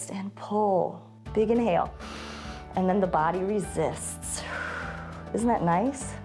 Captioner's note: inhales; exhales